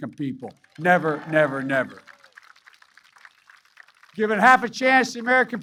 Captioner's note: applause